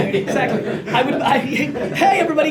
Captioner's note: laughter